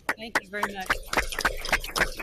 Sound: audience applauds

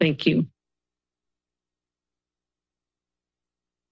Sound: silence

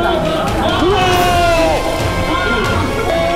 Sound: aaaah Aaah

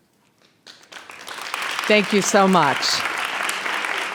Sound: audience applauds

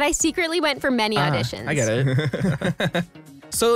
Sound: laughs

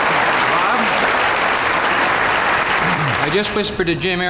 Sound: audience clapping

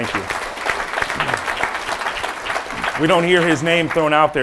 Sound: audience applauding

